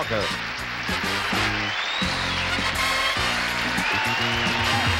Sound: applause

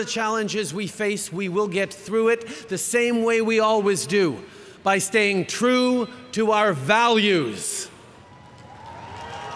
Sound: cheering

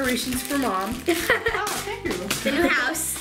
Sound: laughing

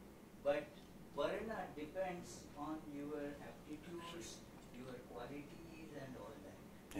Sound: non-english

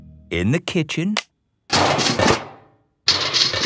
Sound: banging

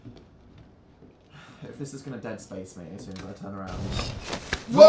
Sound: sigh

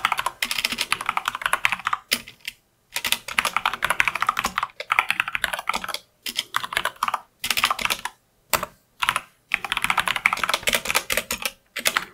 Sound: typing

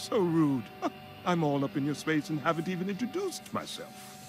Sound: chuckling

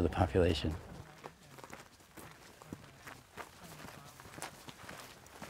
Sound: feet crunching in the soil

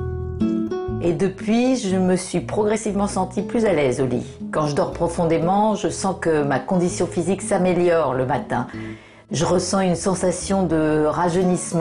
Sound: voiceover

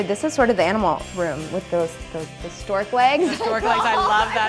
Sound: laughs

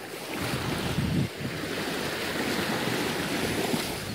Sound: sounds of ocean waves

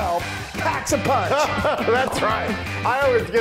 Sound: laugh

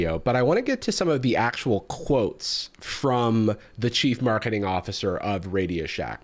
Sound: none

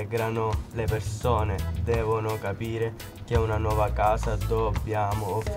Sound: speaking in foreign language

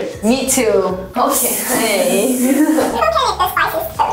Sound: hissing sound effect

